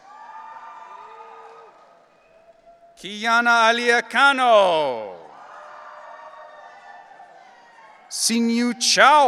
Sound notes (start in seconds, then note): 0.0 audience cheering; 5.5 audience cheering